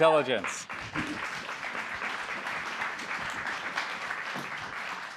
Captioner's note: applause